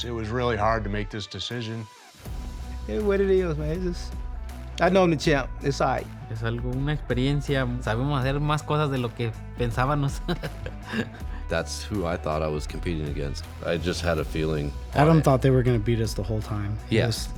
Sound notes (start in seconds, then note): 10.0 laughs